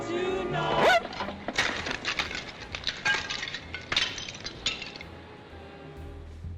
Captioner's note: door slams; record screeches and shatters